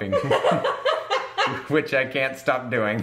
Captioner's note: laughing